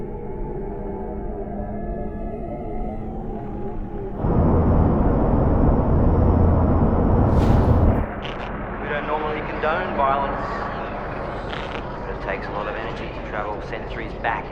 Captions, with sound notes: (engines rumbling) We don't normally condone violence, but it takes a lot of energy to travel centuries back